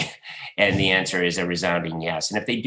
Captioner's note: laughs